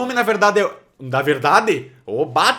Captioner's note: he said it with a funny accent